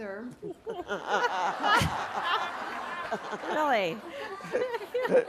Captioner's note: laughter